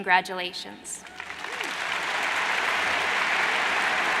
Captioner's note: crowd applauds